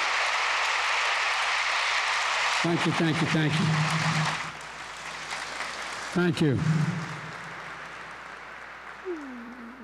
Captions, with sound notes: Thank you, thank you, thank you. (Applause.) Thank you.